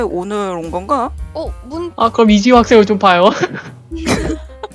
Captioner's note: laugh